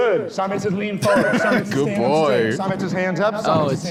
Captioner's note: laughs